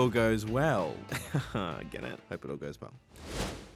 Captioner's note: laughs